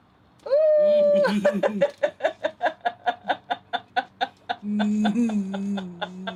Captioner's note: laughing